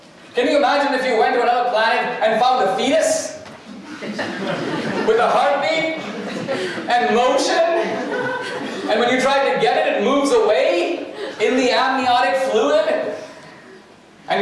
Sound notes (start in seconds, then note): 3.6 audience laughter